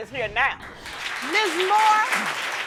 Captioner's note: audience applauding